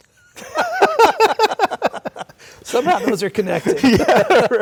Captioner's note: laughter